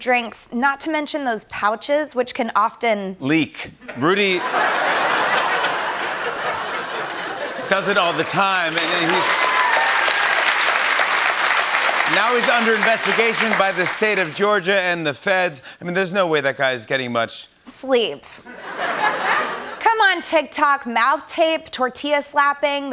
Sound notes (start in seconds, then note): 3.8 laughter; 8.9 laughter and applause; 18.5 laughter